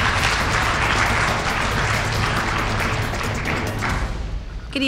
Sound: applause

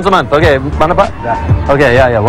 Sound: speaking indonesian

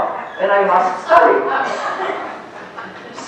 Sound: laughter

